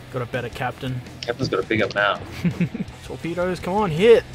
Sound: laughter

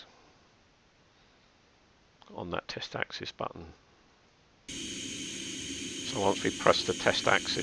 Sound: stepper motor noise

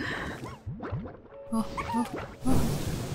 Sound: anticipation noises

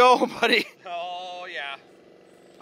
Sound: chuckles

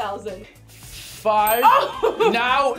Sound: laughs

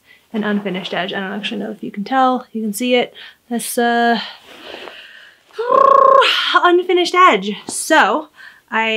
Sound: blows raspberry

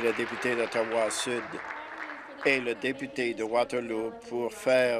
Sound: applause

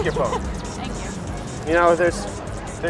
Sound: laughs

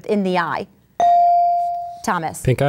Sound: ding

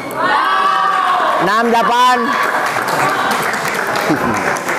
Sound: applause

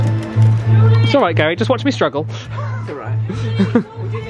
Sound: laughs

